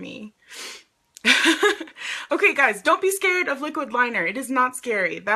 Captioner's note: sniffs; laughs